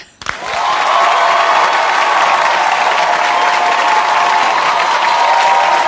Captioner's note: audience cheers and applauds